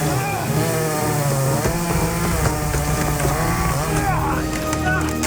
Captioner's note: tree trunk cracking